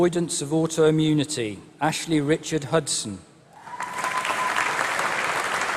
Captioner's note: applause